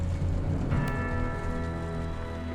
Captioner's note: dramatic bell toll